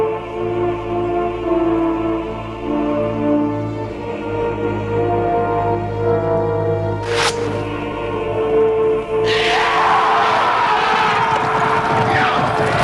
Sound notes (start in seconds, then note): 9.4 men shouting